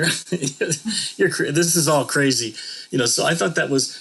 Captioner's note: laughter